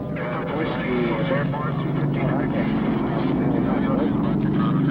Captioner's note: voices crackling with static